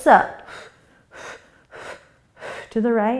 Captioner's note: quick breaths